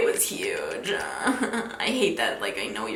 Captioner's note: groaning